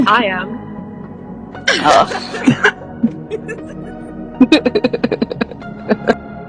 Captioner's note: everyone laughs